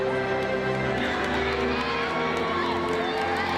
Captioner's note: crowd cheering